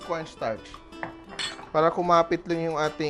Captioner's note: clink